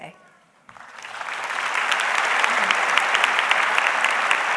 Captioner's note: audience clapping